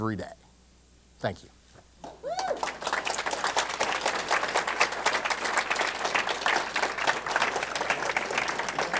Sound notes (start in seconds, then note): 2.0 applause